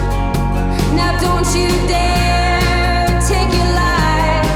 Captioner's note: none